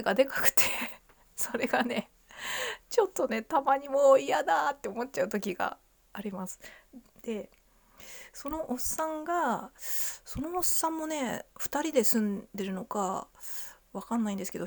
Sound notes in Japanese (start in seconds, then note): 1.5 笑い; 2.3 息をのむ音